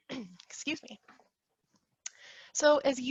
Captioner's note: clears throat